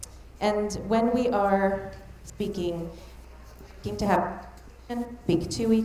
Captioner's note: mic cutting out